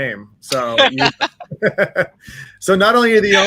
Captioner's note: all laugh